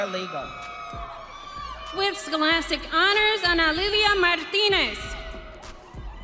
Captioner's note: audience cheering